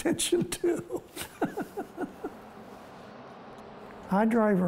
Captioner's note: laughing